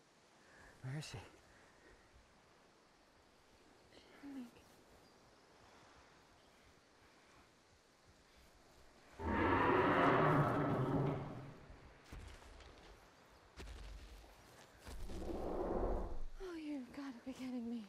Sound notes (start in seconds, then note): 9.2 dinosaur roar; 11.2 footsteps